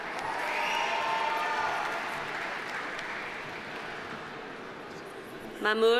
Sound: audience cheering; audience applauding

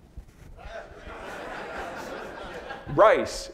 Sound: audience laughing

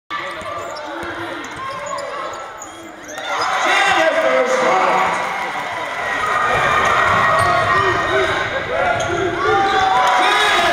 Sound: cheering

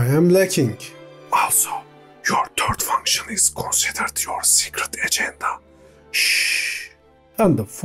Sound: whispers

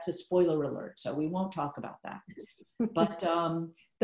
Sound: Gloria laughing

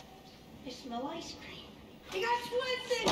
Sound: door creeks

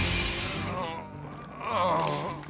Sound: moaning

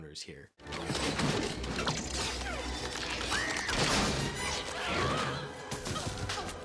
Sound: tense music; yelling

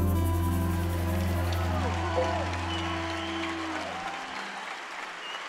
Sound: crowd cheering and clapping

